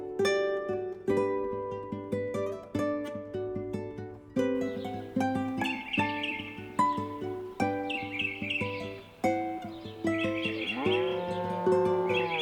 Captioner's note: moo